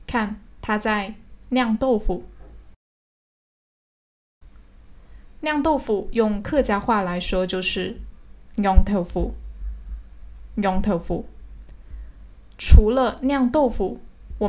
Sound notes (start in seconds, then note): 10.0 hakka pronunciation